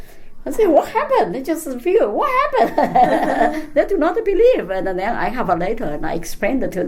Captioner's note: all laugh